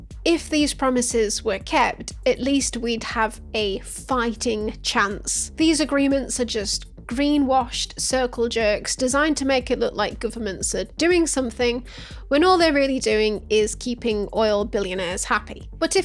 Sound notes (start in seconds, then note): none